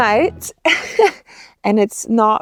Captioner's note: person laughing